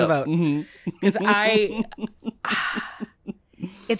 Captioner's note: chuckles; sigh